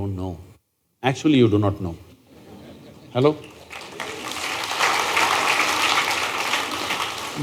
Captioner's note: laughter/Applause